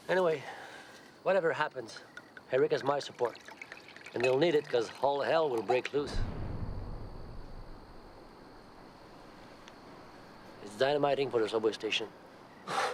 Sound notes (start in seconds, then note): 6.0 explosion blasts